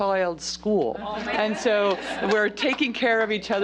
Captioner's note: laughter